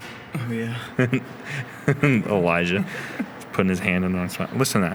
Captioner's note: laughs